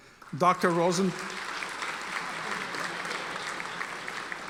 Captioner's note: audience applauding